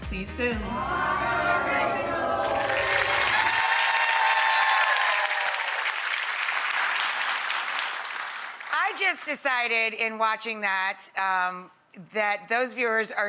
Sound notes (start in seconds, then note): 0.8 crowd cheering